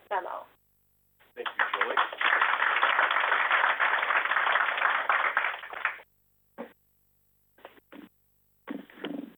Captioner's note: applause